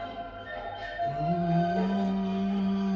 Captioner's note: hums along